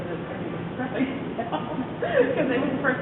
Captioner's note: laughing, inaudible